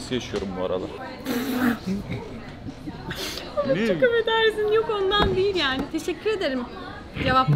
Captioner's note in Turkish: güler